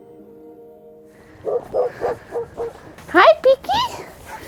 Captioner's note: dogs barking